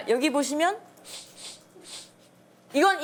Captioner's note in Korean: 킁킁 킁킁킁